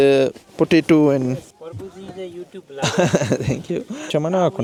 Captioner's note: laugh